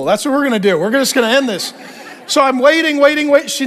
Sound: congregation laughing

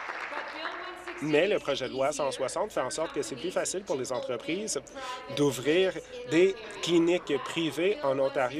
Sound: applause

